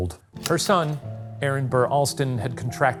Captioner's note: projector clicking